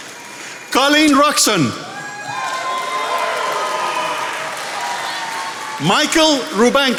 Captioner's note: attendees applauding